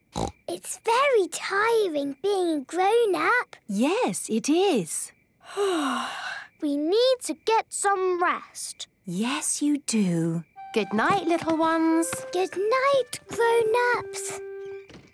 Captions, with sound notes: - Snort! It's very tiring being a grown-up. - Yes, it is. - (yawning) We need to get some rest. - Yes, you do. - Good night, little ones. - Good night, grown-ups.